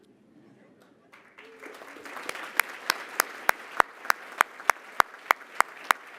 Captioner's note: applause